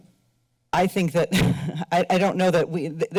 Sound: chuckles

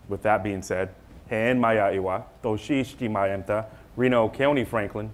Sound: speaking foreign language

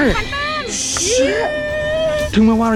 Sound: cheer

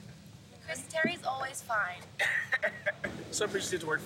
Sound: laughs

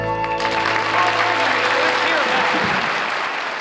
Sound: bright music; audience claps

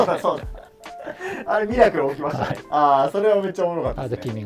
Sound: laughing

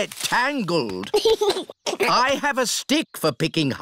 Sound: giggles

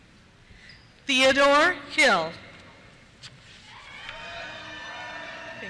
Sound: cheers

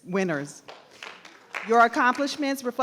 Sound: crowd clapping

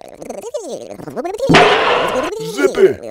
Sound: slam

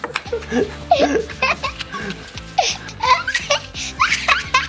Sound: laughing continues

